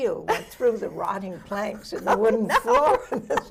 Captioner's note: laughs